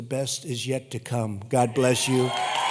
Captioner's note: applause